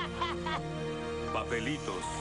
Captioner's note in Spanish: lloran